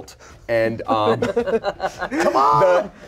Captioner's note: everyone laughs